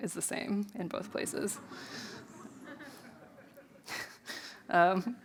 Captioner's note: audience laughs; laughs